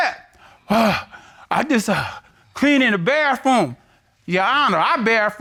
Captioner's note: imitates panting